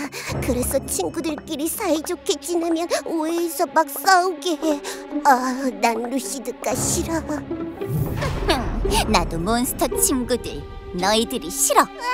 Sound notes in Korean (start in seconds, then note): 7.8 휘웅, 화면 효과음; 8.2 후훗, 루시드의 웃음